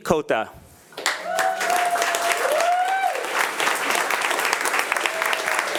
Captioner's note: attendees applauding